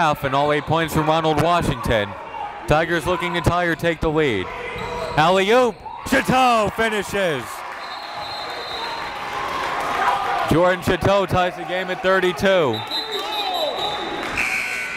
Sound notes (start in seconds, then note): 8.0 applauding; 9.8 whistle blows